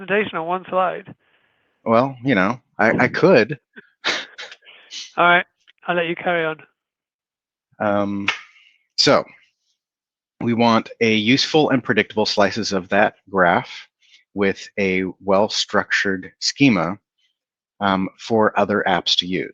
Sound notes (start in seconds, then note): 2.8 chuckles